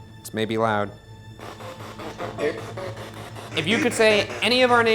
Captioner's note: spirit box chattering